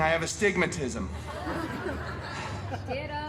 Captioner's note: guests laughing